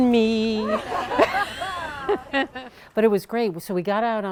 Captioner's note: laughing